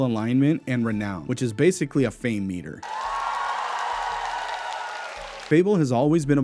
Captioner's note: cheers and clapping